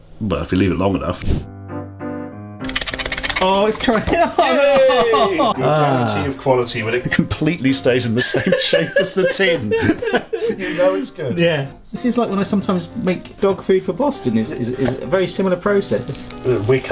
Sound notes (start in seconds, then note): 1.7 cheerful music; 4.2 laughing; 8.2 laughing